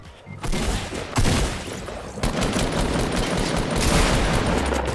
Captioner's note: gunshots firing